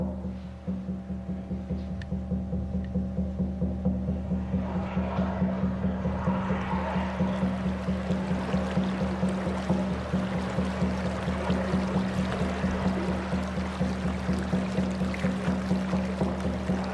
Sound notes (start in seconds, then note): 7.4 sound of water flowing amidst the drumbeats